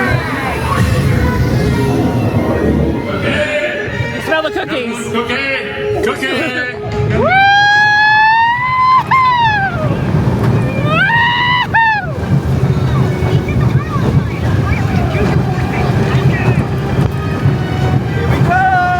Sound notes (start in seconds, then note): 8.2 hooting; 12.0 coaster rumbling